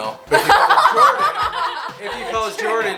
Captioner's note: girls laugh